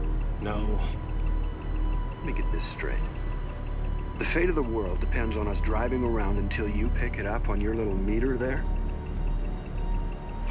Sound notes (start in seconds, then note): 8.1 clicking continues